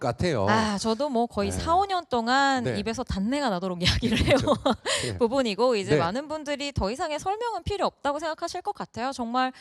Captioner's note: laugh